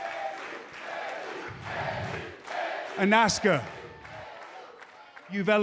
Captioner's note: cheers and applause; fans chanting